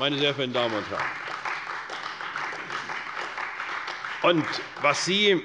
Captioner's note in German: Beifall bei der CDU und dem BÜNDNIS 90/DIE GRÜNEN